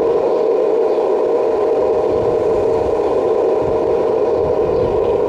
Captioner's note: wind blowing